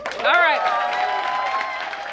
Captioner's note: applause